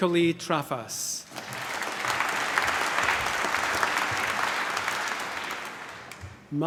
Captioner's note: applause